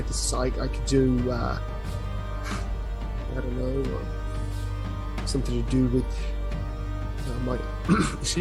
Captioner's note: clears throat